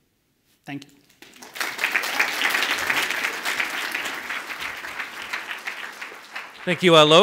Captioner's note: audience applauds